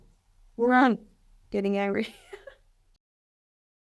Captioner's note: laughs